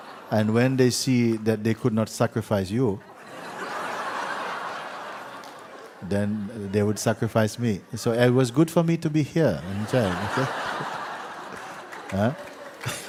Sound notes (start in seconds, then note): 3.1 laughter; 9.6 laughter